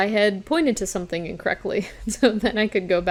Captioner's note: chuckles